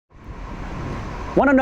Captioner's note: air whooshing